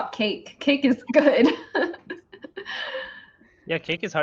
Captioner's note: laughs